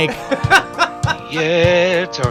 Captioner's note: laughing